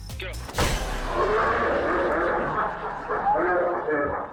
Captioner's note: man yelling